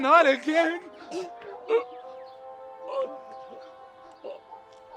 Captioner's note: Stewart gasping